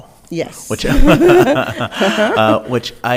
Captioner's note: both laughs